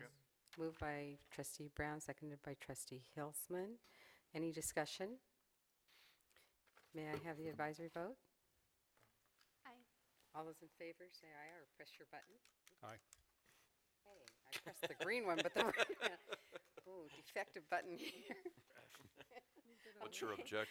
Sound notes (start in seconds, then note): 14.5 laughter